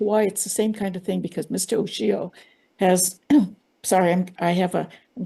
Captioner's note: coughs